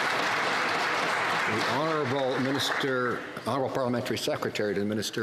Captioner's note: some Applause